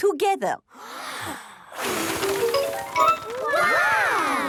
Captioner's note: big breath and blow